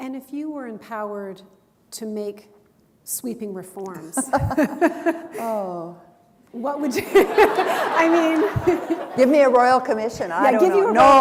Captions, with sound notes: And if you were empowered to make sweeping reforms... [chuckle] Aw. What would you... [laughter] I mean... [chuckle] Give me a royal commission, I don't know...